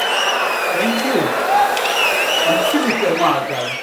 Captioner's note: audience cheering, applauding for 22 seconds